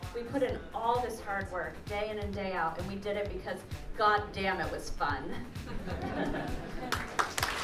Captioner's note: clapping